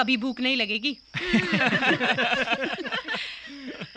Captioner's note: all Laughing